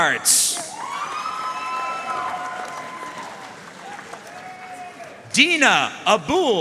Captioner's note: audience cheering and applauding